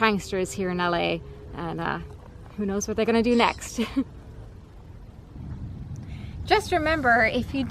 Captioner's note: chuckles